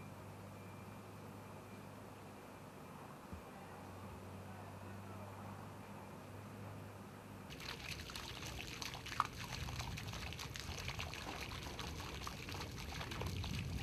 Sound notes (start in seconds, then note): 7.5 water splashing